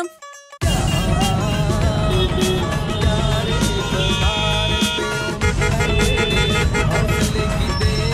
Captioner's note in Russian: сигналы машин и мопедов